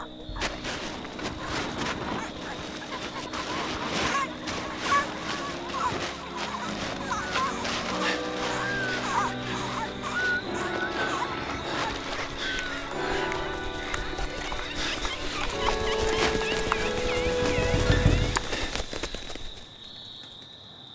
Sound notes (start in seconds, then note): 5.2 birds resume squawking like before; 14.6 wings flapping; 18.7 wing flaps recede into the distance